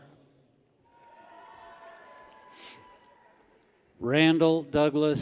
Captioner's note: people cheer